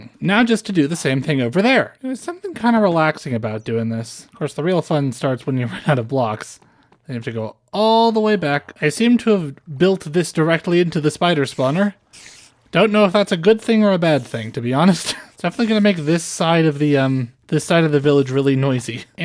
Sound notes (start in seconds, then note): 11.3 grinder